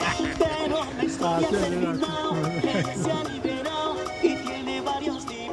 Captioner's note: speaking foreign language